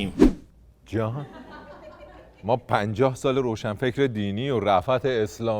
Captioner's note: laughter